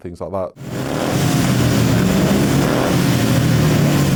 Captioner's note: bikes revving